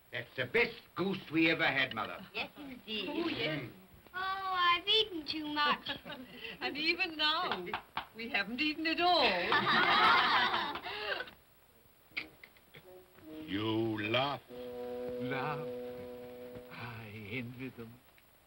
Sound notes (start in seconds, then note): 9.4 children laugh; 12.1 Scrooge makes sucking sound